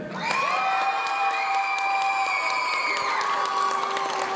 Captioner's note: audience cheering